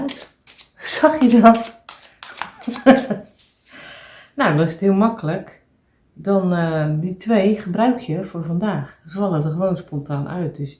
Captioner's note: laughs